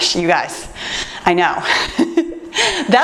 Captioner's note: laughs